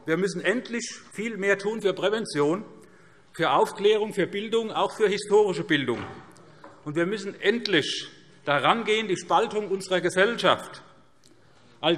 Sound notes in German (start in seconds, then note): none